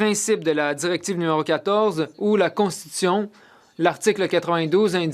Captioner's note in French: voix de l'interprète